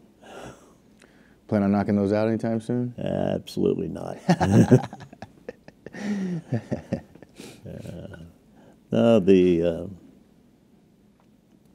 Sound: laughter

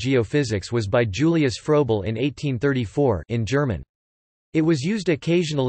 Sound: in German

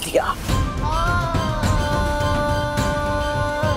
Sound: emotional vocalising

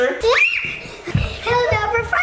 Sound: screams

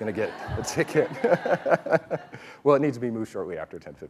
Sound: laughing

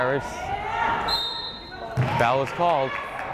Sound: whistle blows

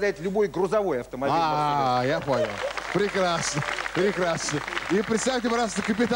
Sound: applause

